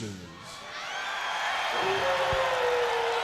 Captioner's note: crowd cheering